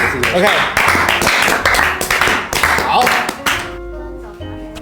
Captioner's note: clap clap clap